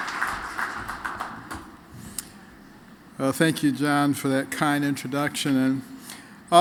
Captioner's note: applause